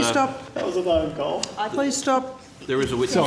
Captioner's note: multiple people talking